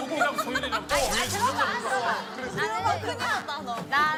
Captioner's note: buzzing